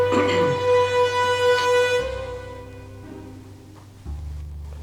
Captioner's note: Tony clears his throat; playful suspenseful music